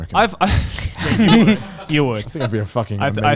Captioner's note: laughing